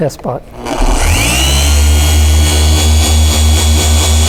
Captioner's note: LHR 75 revving